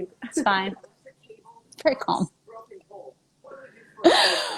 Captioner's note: laughing